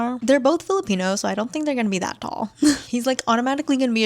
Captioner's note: laughs